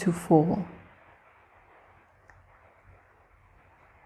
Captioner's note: rain falling